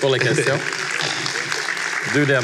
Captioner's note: applause